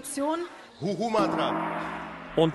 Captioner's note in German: Gong ertönt